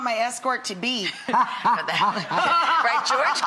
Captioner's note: laughs